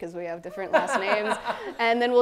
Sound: laughs

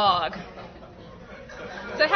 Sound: laughter

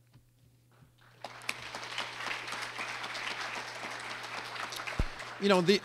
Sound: clapping

